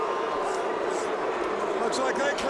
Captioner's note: crowd cheering